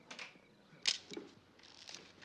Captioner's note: camera clicks